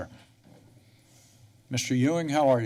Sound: pause

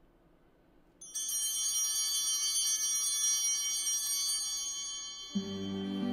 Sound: bell ringing

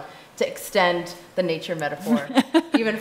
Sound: chuckling

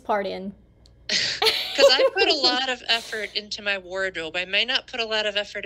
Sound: laughter

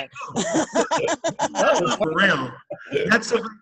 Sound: laughing

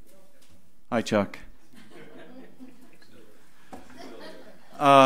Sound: audience laughs

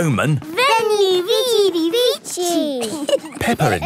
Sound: laughing

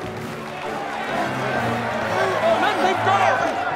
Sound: crowd jeers

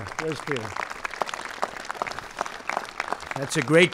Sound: applause

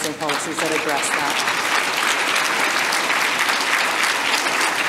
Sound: audience applause

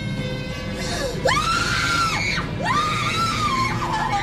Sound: screaming

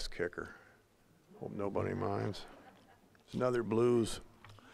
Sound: audience chuckling

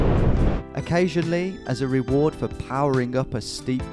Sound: voiceover

